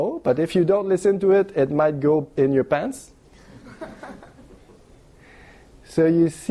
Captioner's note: laughter